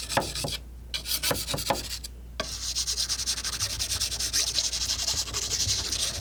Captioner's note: scratching